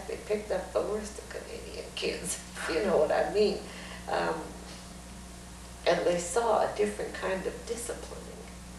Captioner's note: laughs